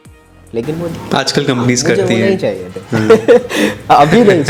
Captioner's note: laughs